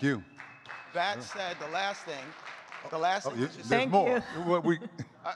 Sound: audience clapping

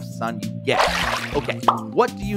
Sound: water splashing

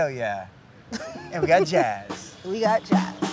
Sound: laughing

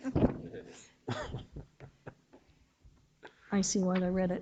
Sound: board members chuckling

